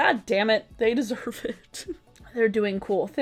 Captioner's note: laughing